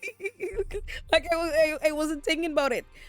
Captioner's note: laughs